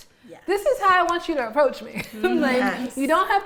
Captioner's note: laughing